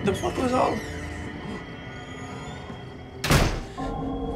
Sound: door creaking; door thuds

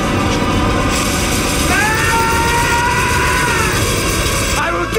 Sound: guns firing

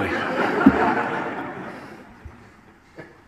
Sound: audience laughs

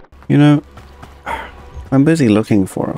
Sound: sigh

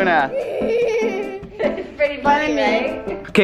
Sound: laughing

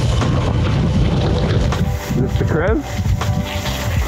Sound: bike rumbling

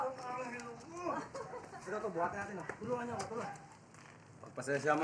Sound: chuckles

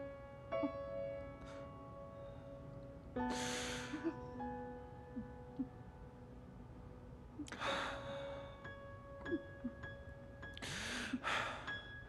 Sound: weeping

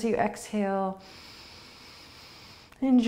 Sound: breathing

